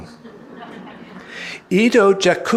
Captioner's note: audience laughing